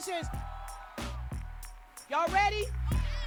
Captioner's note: cheering